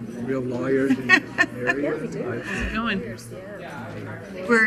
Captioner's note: laughing